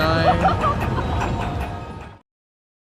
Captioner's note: laughter